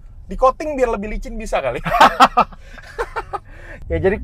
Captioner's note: laughing